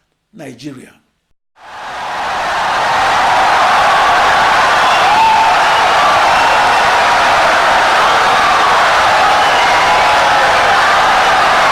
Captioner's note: wild applause and cheering for 17 seconds